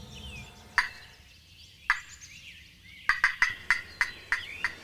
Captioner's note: turkey Call